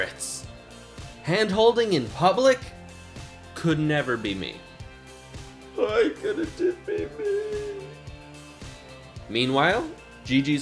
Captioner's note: while crying